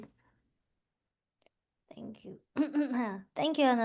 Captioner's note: coughs